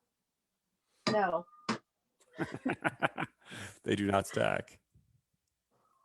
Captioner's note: laughs